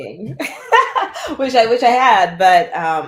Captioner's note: laughter